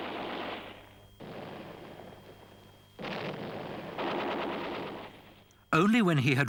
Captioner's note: explosions booming; guns firing